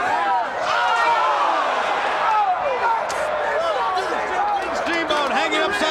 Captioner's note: crowd gasping